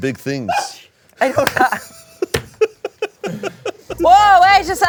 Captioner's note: all laughing